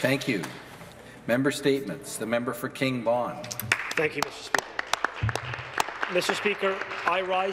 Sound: some Applause

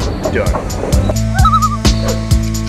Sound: loon call

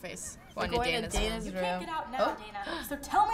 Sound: gasping

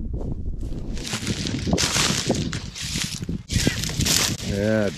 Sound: squealing

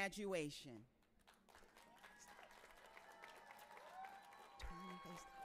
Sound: audience applauding and cheering

